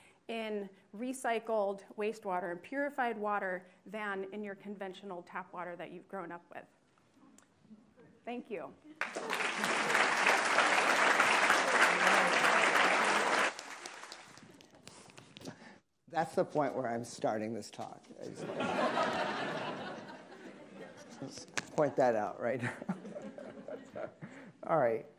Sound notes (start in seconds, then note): 9.0 attendees applauding; 18.2 attendees laughing; 22.6 laughing